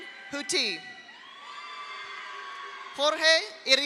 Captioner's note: audience cheers; audience applauds